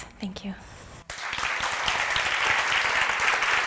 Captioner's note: applause